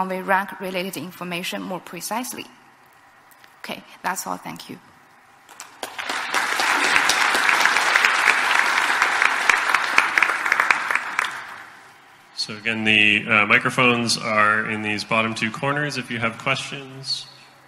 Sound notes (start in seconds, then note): 5.4 audience applauds